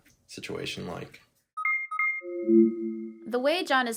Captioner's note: device beeping